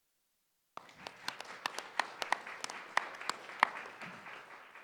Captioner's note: applause